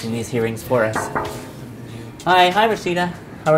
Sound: banging

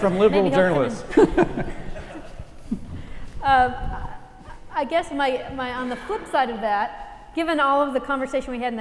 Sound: laugh

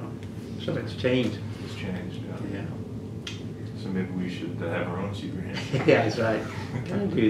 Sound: laughter

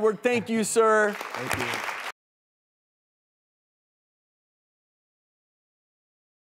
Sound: audience clapping

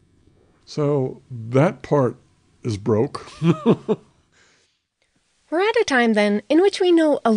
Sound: laughs

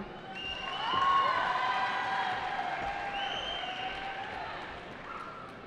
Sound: cheering

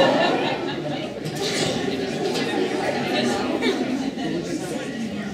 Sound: audience chatter

